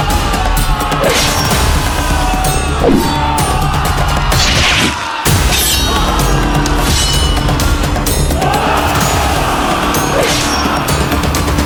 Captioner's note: murmuring